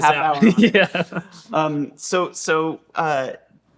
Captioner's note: laughing